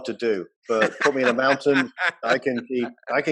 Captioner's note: laughing